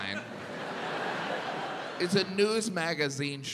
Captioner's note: audience laughs